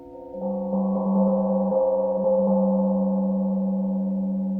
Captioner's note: gong rings